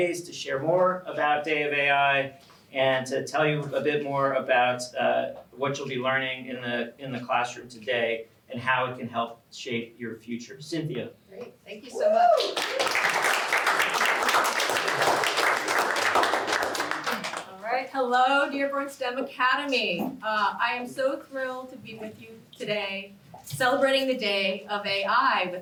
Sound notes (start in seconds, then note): 12.3 applause